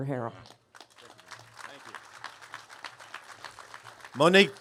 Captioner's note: applause